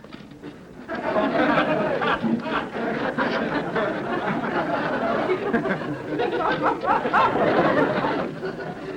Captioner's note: audience laughter